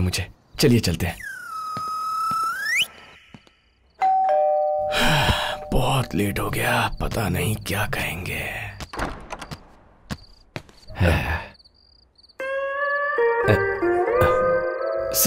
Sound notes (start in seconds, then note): 4.0 door bell rings; 4.9 sighing; 8.8 door opens